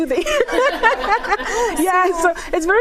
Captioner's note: everyone laughs